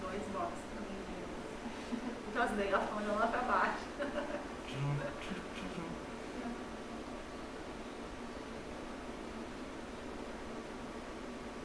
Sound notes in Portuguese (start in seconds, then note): 3.9 risos